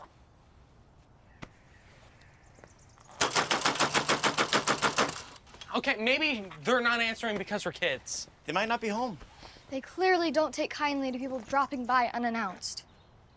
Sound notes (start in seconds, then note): 3.2 knocking louder